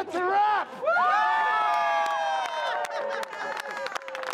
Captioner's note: cheering and applause